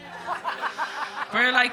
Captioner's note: woman chuckling